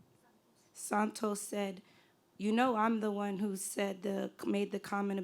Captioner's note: voiceover